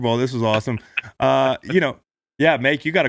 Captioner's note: Sean laughs